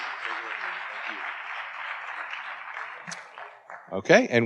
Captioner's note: audience applauding